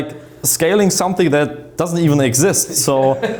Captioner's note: laughs